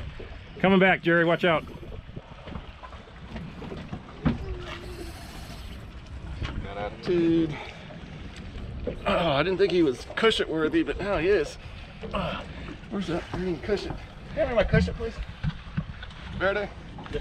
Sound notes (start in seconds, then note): 4.8 reel spinning